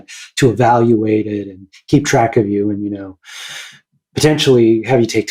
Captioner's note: inhales